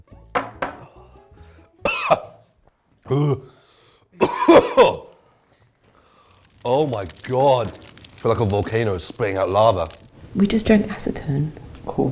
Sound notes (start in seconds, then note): 0.3 glass thuds; 3.0 gagging; 4.1 coughs